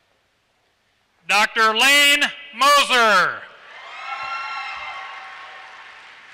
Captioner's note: applause